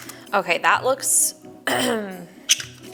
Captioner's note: clears throat